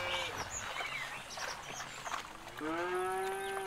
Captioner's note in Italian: Rumore del carro e muggiti